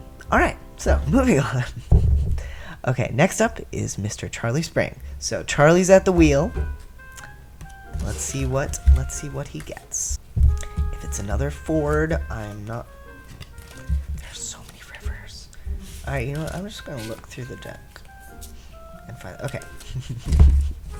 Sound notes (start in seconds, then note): 13.9 whispers; 18.6 laugh